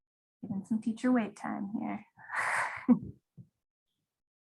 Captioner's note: chuckles